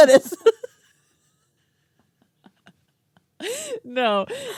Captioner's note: laughing